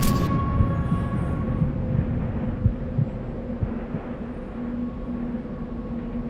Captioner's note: heartbeat; wind rushing